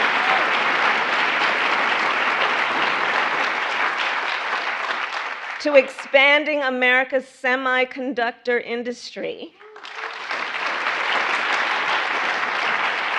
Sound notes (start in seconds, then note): 6.8 applause